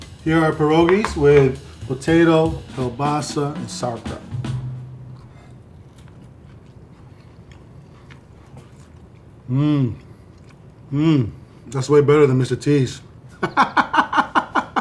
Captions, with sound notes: Here are pierogies with potato, kielbasa, and sauerkraut. [soft crunching and chewing] Mm. Mm. That's way better than Mr. T's. [laughs]